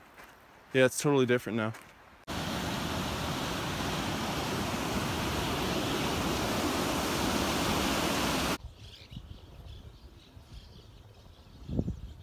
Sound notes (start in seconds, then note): 2.2 rushing water roars; 9.4 chirping birds